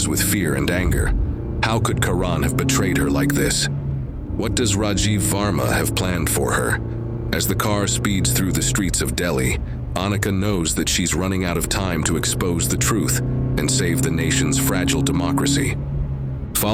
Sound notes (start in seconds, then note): 0.0 sound of a car on a road; 7.6 sound of speeding the car